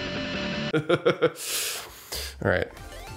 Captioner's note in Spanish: risas